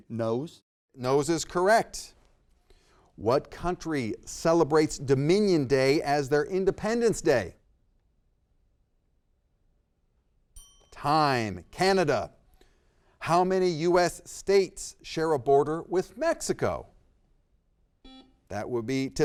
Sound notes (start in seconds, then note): 10.5 bell dings; 18.0 buzzer beeps